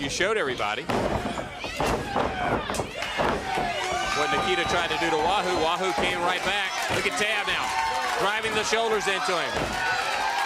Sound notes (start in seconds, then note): 2.7 crowd cheering